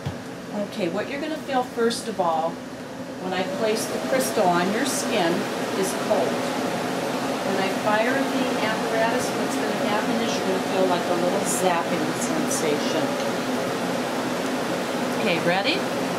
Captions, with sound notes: Okay what you are going to feel first of all, when I place the crystal on your skin, is cold. [Machine whirring] When I fire the apparatus what you're going to feel is like a little zapping sensation.